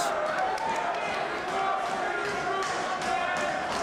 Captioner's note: crowd yells